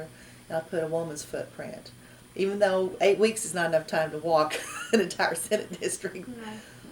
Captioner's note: laughs